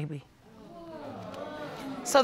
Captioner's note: audience exclaiming